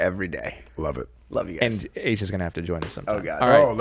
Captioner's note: murmurs